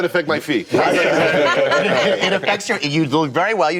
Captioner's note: laughter